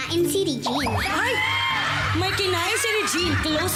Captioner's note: screams